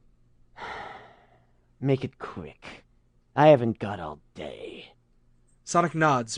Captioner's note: sighs